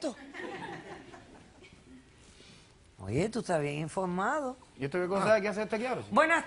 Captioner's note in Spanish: Risas